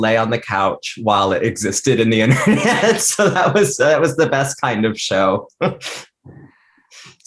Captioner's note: laughs